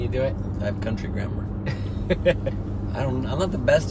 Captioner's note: laughs